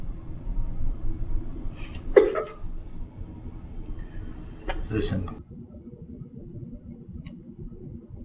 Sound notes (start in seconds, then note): 2.2 sobbing